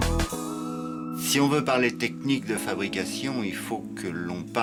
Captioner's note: speaks french